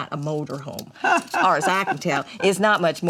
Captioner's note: mama laughs